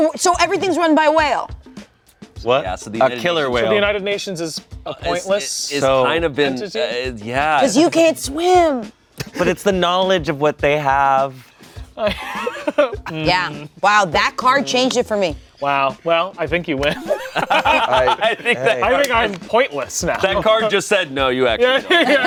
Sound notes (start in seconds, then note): 16.8 everyone laughs; 21.6 everyone laughs